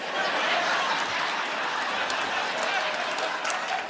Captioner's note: audience laughing